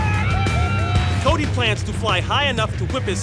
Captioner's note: cheering